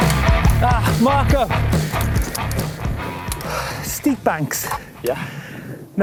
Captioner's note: grunts